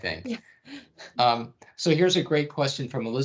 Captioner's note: chuckling